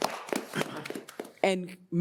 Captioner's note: audience applauds